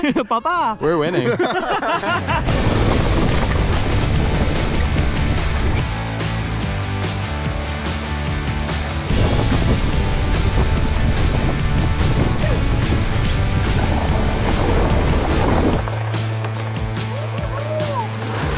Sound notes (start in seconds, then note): 2.0 group laughs; 3.7 upbeat rock music